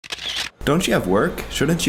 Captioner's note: camera shutters